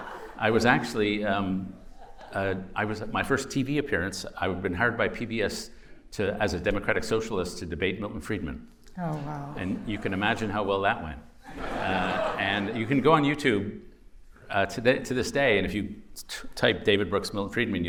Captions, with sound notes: - I was actually-- I was at my first TV appearance. I'd been hired by PBS as a Democratic socialist to debate Milton Friedman. - Oh, wow. - And you can imagine how well that went. [laughter] - And you can go on YouTube to this day, and if you type David Brooks, Milton Friedman,